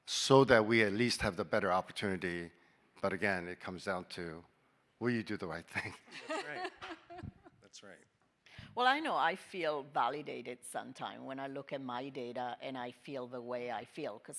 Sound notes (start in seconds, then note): 5.7 chuckling; 5.8 panelists laughing